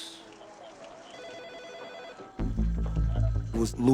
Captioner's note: phone rings